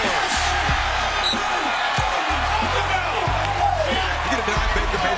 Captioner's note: whistles